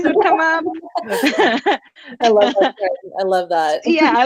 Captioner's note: laughing